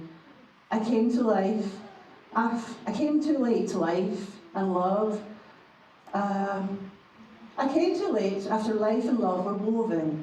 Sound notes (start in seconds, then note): none